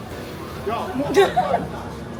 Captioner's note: laughter